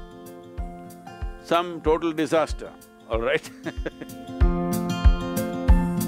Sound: laughs

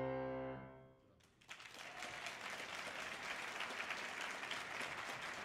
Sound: audience applauding

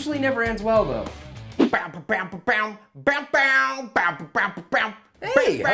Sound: beatboxing heavy metal

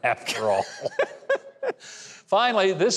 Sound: chuckles

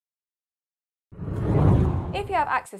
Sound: screen whooshing

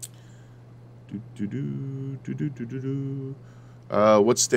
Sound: humming

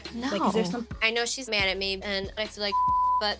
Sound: beep

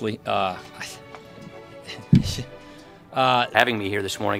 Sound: stammering

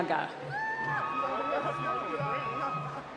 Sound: cheering

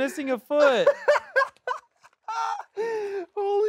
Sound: laughs

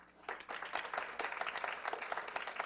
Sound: clapping

